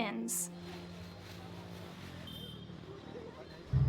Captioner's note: horn Honk